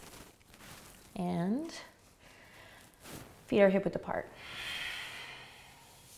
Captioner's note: exhales